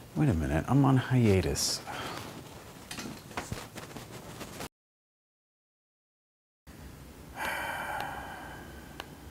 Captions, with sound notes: Wait a minute, I'm on hiatus! *sigh*